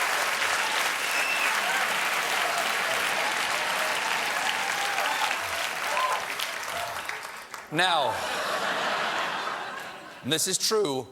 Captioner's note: applause